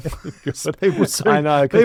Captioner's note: laughing